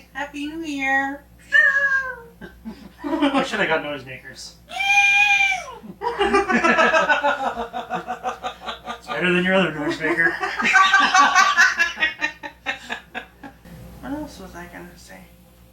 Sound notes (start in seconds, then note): 1.4 making a noisemaker sound effect; 4.7 making noisemaker sound effect; 5.0 both laughing